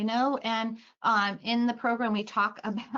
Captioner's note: laughing